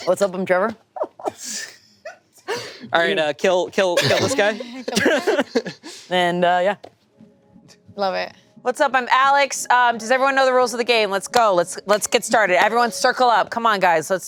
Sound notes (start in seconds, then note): 3.9 laughing